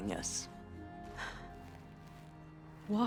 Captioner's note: gasp